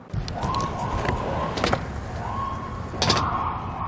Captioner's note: distant sirens